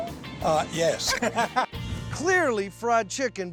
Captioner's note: laughing